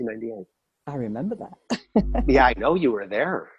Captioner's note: laughs